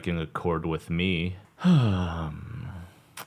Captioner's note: sigh